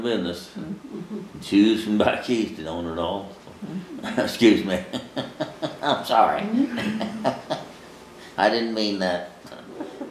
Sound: laughs

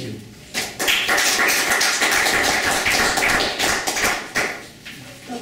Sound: applause

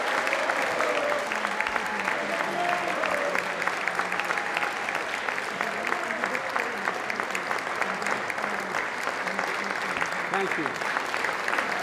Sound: cheers and applause

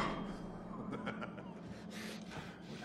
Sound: ripper laughs

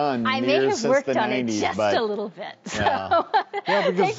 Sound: laughs

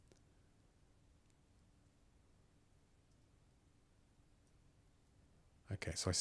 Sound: silence

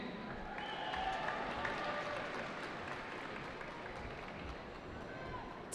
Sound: cheering

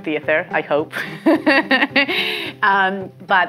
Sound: laughs

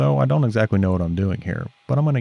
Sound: lathe whirs

